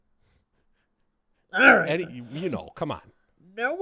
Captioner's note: growls